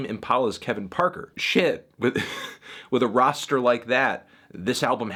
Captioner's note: chuckles